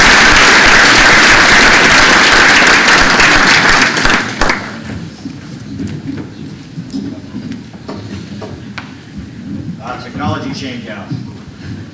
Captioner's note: applause